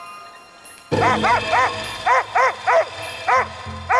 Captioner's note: barking